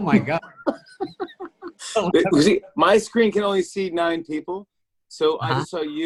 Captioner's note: laughs